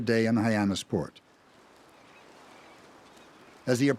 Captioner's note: birds squawking